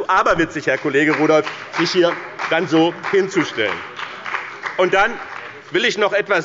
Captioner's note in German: Beifall bei dem BÜNDNIS 90/DIE GRÜNEN und der CDU